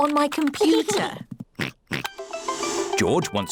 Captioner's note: oinks